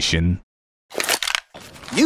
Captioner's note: gun cock